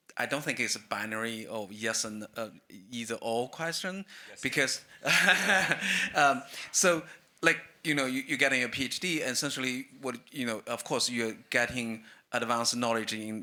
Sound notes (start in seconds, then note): 5.0 everyone laughs